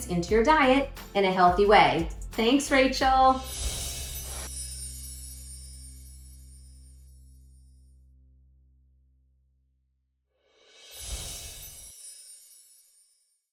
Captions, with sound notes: into your diet in a healthy way. Thanks, Rachael! (air whooshes) (bells chiming) (cymbals crashing) (bells chiming)